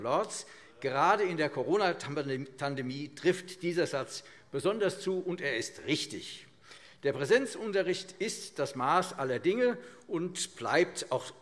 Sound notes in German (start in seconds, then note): none